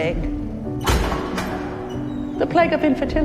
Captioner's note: metal door opening; voiceover